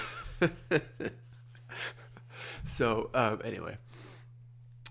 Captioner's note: laughs